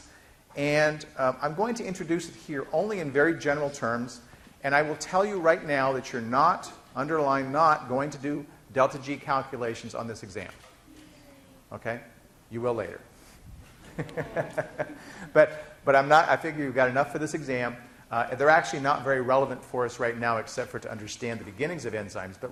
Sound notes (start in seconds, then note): 13.8 laughing